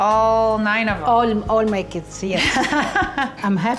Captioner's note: laughing